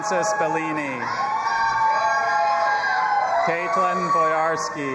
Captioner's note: audience applauding and cheering